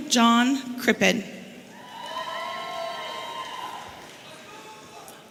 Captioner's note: audience cheering